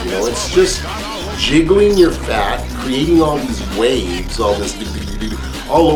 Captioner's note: jiggling sounds